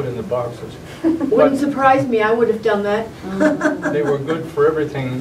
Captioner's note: laughter